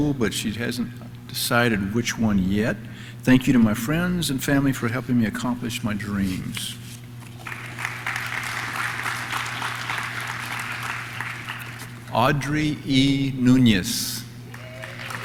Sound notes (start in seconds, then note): 7.3 audience claps; 14.4 audience cheers; 14.4 audience claps